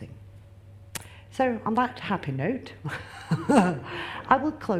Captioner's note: laughs